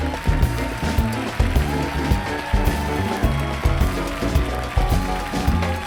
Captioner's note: applause